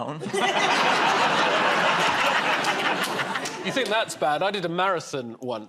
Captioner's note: laughter